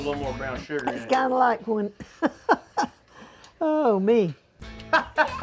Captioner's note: chuckles; chuckles